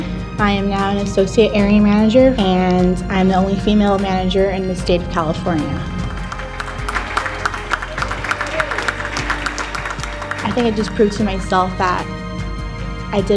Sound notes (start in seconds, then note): 5.9 applauding